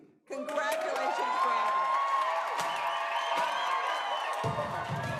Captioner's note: applause